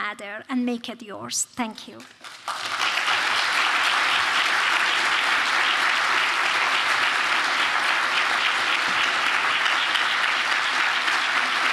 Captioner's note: applause